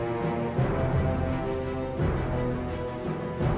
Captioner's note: none